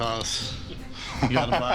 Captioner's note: laughs